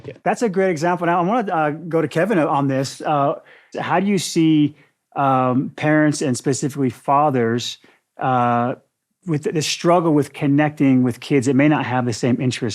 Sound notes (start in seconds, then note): none